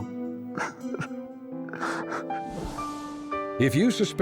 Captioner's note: sobs